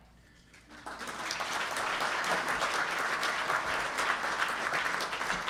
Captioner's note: audience applauding